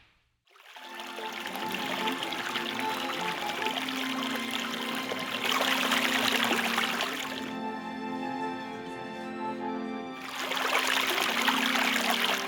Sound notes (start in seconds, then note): 0.6 water flowing; 7.2 water stops; 10.1 water flowing